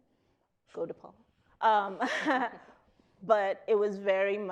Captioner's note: chuckles